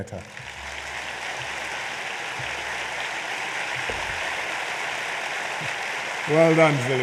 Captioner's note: applause